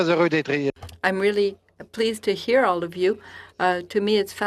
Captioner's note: speaking in French